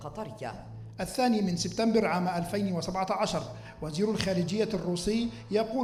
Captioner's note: male speaking in foreign language